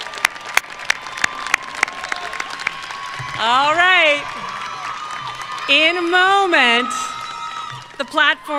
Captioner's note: applause